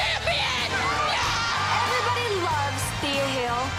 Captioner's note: crowd cheers